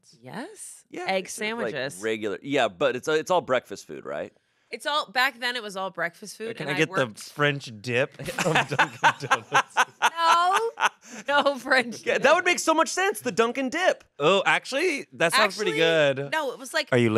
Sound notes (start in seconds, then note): 9.6 laughs